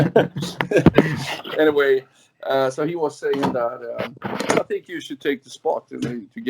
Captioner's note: laughs